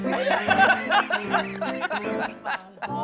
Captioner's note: laughter